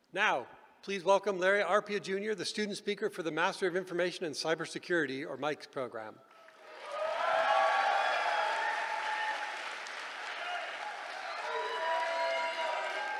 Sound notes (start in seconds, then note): 6.6 cheering